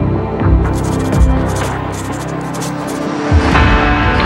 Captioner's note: dramatic music continues; pencil scribbles; dramatic music continues